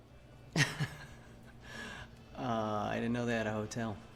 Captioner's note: laughs